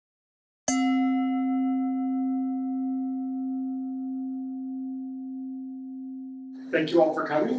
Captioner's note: bell rings